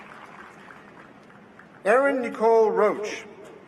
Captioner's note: applause